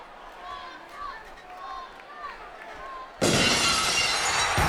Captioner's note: audience chanting; glass shatters